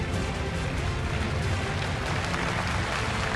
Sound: applause

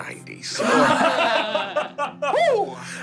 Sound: laughing

